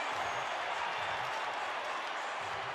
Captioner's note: crowd cheering